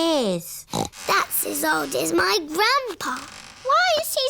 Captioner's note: snorts